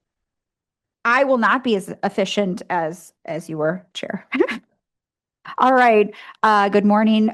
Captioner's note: laughs